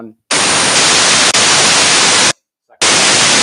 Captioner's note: static